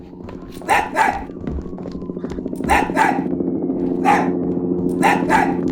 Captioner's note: barking continues; footsteps approaching; overlapping barking and police sirens